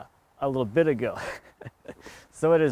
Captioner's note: laughing